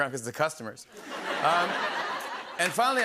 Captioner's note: laughter